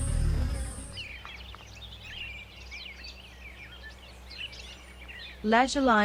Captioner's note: birds chirping and singing